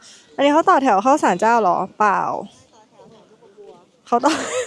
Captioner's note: laughing